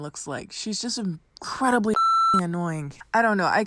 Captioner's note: beep